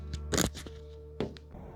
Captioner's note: soft music; camera clicks